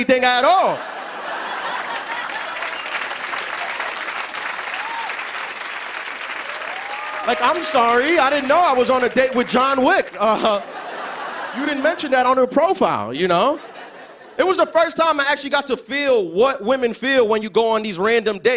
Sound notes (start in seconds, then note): 0.4 laughter and applause; 10.1 laughter